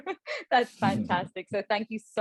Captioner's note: chuckling